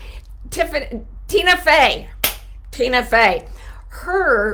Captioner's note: claps